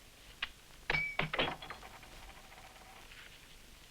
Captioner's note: coin clinks